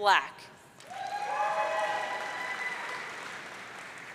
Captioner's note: audience cheering